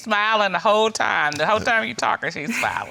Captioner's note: laughs